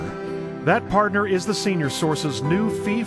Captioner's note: voiceover